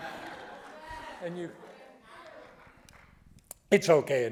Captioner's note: audience laughing